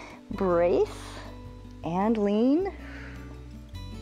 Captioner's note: exhales